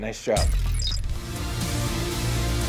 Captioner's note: dramatic music; mechanical whirring